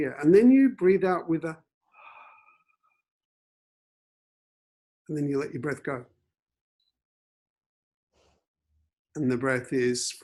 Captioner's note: takes audible breath